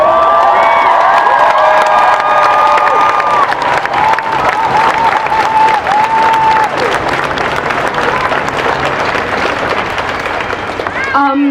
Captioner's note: applause